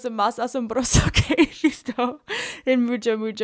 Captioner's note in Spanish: risas